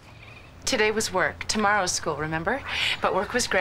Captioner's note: none